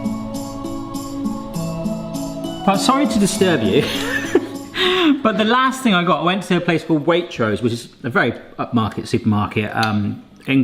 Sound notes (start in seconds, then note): 3.8 laughing